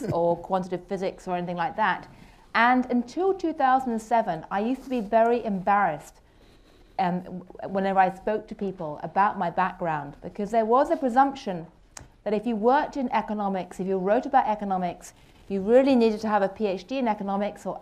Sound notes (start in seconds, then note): none